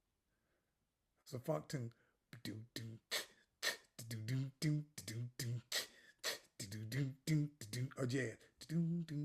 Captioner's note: comienza a hacer beatbox